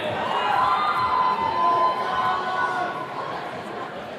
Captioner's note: attendees cheering